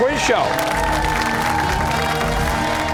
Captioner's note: cheers and applause